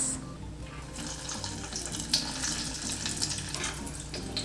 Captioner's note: oil sizzling